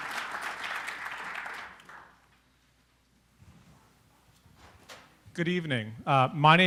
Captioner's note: applause